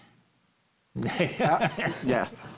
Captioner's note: laughs